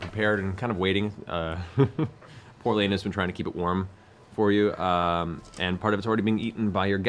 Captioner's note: laughs